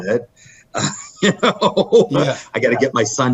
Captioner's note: laughing